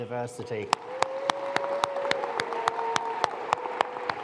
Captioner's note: all applauding